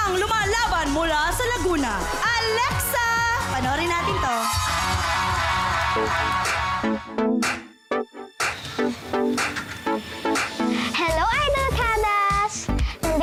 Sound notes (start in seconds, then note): 4.2 crowd cheers, applauds; 6.1 bright music playing